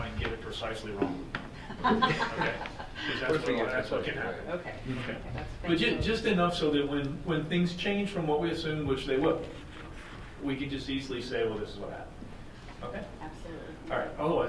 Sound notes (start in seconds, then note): 1.5 board members laughing